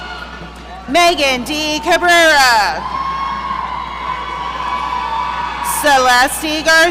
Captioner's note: audience cheering